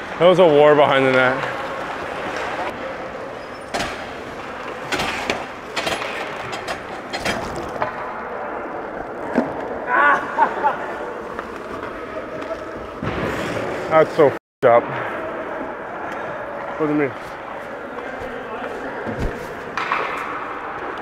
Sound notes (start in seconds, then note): 9.9 laughs